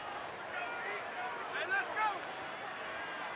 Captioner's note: yelling